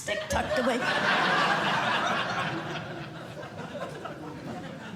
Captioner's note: laughter